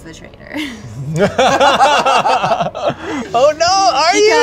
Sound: laughter

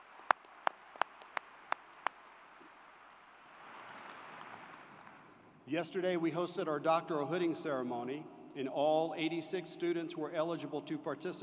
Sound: applause

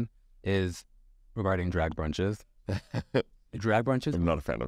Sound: Sasha laughs

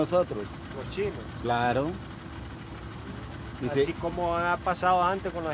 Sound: speaking in foreign language

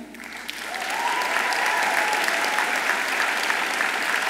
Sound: audience applauds

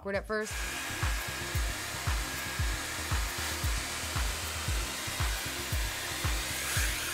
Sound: upbeat music; hair tool whirring

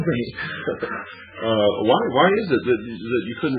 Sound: laughs

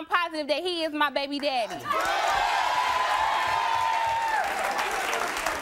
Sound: crowd cheering

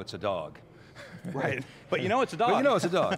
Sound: chuckles

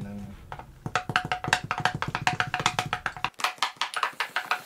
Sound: doll clattering

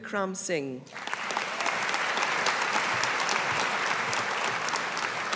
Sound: audience applauding

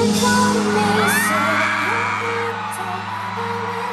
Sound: screams!!!

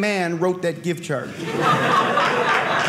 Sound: audience laughing

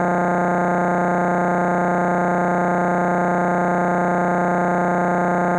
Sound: electronic buzzing continues

